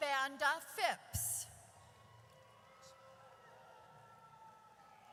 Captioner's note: audience cheers